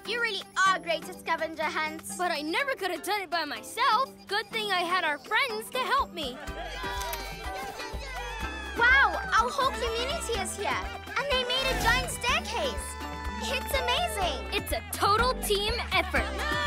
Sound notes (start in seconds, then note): 6.4 cheering